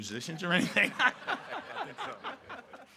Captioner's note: all laughing